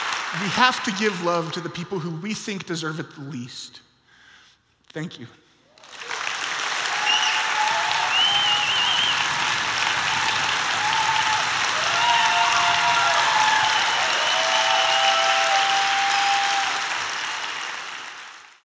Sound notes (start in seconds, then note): 6.4 applause